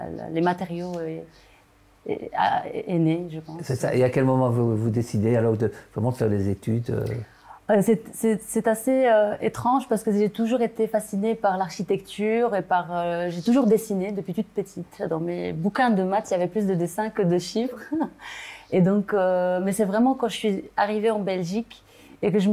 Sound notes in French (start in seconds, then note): 18.5 rire